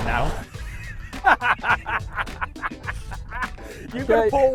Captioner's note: laughs